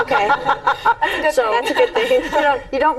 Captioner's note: laughing